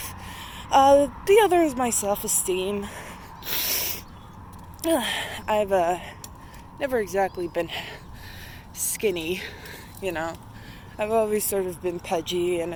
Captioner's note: sniffs stuffy nose